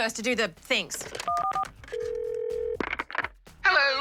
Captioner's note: phone beeps, rings